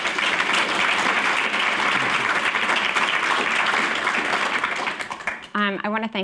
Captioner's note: applause